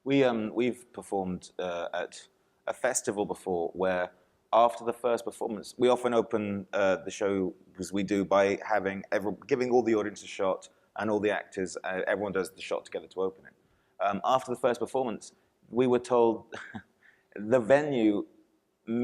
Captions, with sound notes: - We've performed at festival before where after the first performance, we often open the show as we do by giving all the audience and actors a shot. Everyone does the shot together to open it. After the first performance, we were told (chuckles)